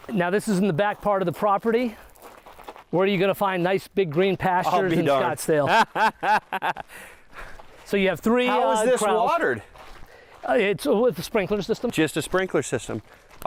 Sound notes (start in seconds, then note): 5.6 laughs